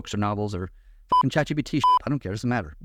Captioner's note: beep